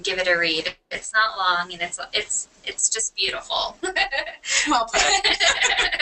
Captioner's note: laughter